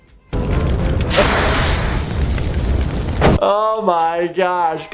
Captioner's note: fire extinguisher wooshing